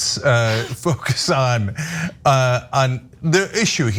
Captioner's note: laugh